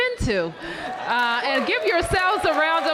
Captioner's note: applause